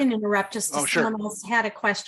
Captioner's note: pat